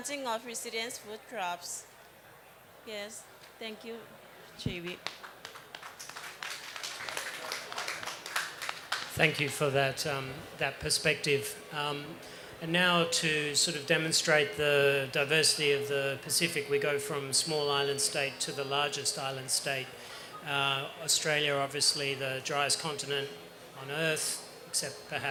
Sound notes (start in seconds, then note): 4.8 applause